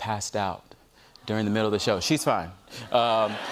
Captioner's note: audience aws; laughter